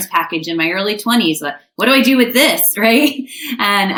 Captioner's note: chuckles